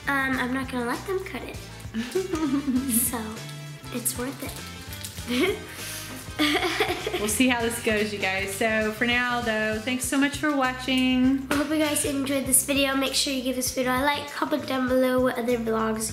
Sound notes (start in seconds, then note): 6.1 giggling